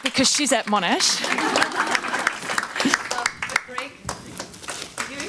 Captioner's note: audience laughs